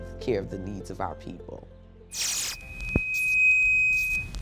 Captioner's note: mic feedback